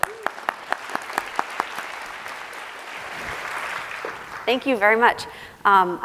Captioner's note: applause